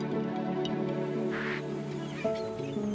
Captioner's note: walkie talkie static; birds chirping